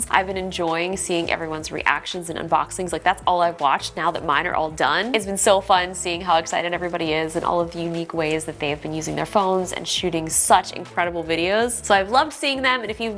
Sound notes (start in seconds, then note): none